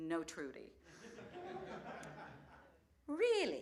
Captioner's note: laughter